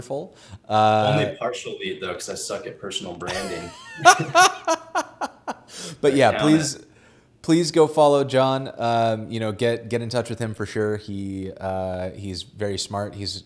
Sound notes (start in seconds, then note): 5.0 laughs